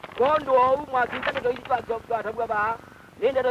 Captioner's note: non-English speech; paper rustle